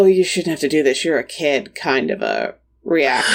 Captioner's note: sighs